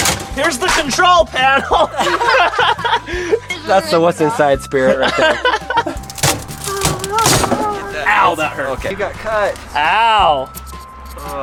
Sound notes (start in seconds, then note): 1.4 laughter; 4.7 laughter